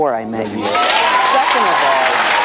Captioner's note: audience cheers